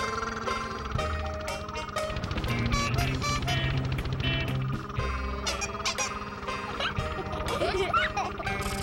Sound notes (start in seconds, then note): 0.0 small sounding engine; 3.4 large horn; 5.9 small horn